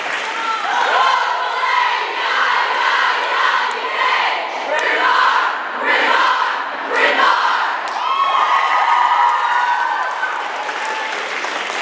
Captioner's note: cheering